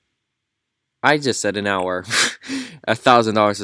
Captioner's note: scoffs + laughs